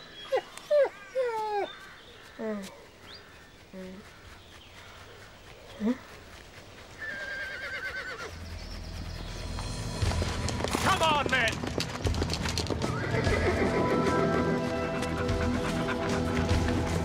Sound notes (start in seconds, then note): 0.6 dog whimpers; 7.0 horse whinnies distantly; 14.9 dog pants